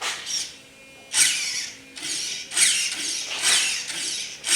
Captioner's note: wheels whirling